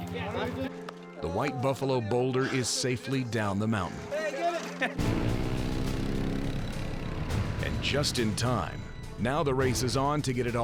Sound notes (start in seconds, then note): 5.0 atv's revving